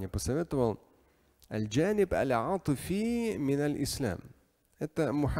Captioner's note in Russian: Говорит на арабском